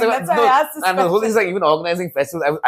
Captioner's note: laughs